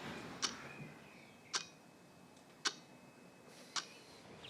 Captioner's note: clock ticks; clock ticks